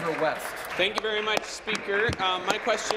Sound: applause

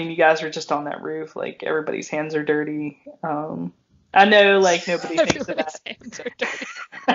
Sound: laughing

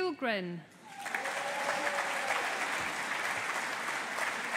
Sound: audience applauding

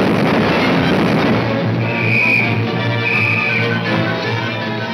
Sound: whistle blowing

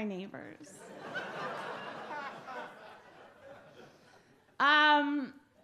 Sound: audience laugh

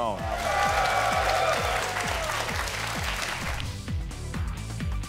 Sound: audience applauds; upbeat music

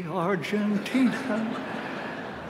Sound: laughter

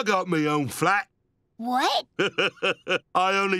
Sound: laughing

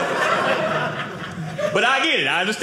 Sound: audience laughing

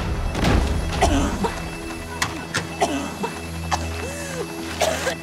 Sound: grunts; coughing; gasps, coughs

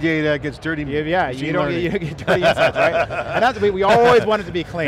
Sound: both laughing

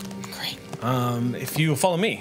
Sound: whispers

